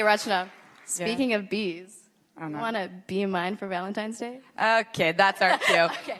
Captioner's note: applause